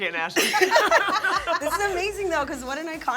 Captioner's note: laughs